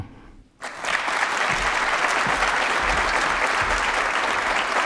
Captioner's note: applause